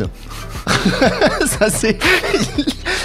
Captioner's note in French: rires